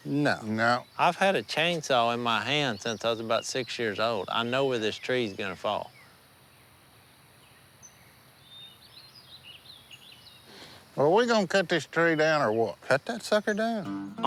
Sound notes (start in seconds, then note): none